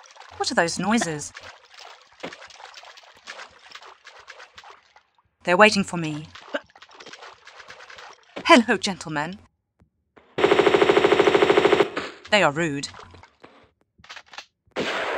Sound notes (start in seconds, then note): 2.2 noises of people walking in water